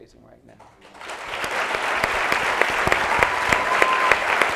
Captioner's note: applauding